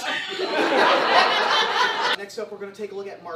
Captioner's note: audience laughs